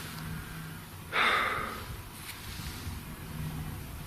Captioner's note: sighing